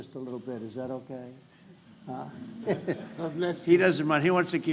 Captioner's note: laughter